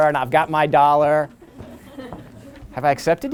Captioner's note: laughter